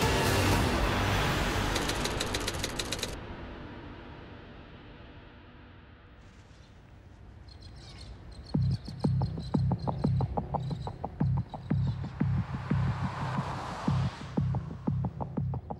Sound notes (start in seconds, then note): 1.7 typewriter clacking; 8.5 brooding music